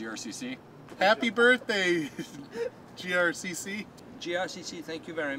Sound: laughing

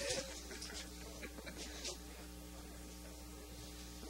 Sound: laughter

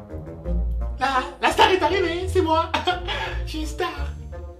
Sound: in an insistent tone

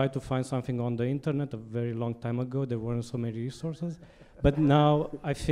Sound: audience laughter

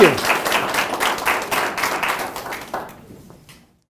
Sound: audience applauds

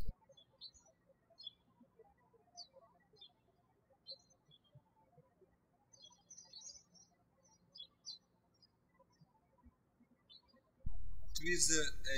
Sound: birds chirping

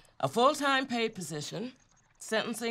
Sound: none

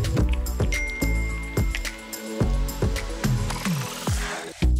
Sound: phone dinging

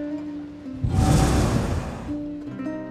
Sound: lute music; ocean sound; cannon blast

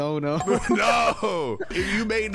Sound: laughing

